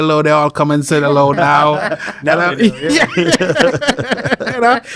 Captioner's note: laughs